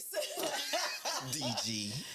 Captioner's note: laughing